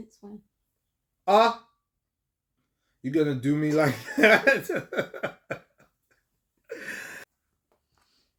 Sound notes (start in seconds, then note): 3.8 laughter